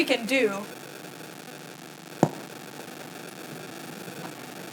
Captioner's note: microphone buzzing